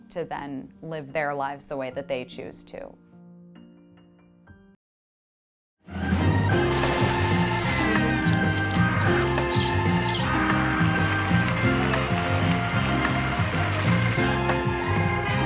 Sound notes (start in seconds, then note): 5.9 upbeat music; 6.6 water splashes; 9.5 birds chirping; 12.2 audience applauds